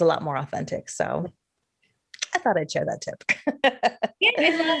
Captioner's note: laughs